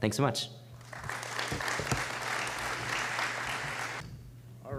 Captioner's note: applause